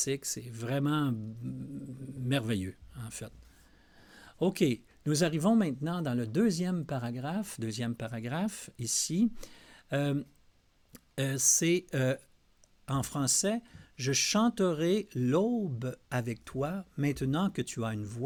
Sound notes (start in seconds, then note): 12.8 translating in French